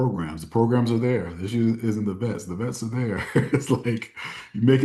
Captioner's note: laughs